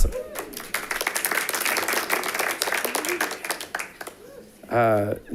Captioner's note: audience applauding